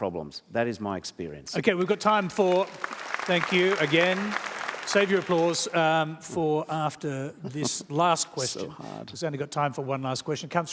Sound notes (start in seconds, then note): 1.6 applause; 7.4 chuckles